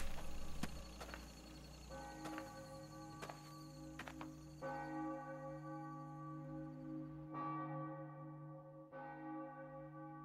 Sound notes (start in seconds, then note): 1.3 church bell chimes